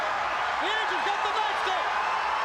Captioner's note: crowd cheering